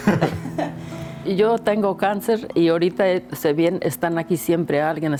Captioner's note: speaks in Spanish